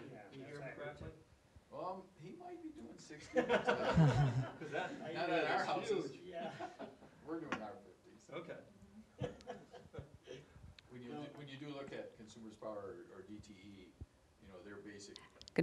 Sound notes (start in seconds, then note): 3.4 audience laughing; 7.4 audience chuckling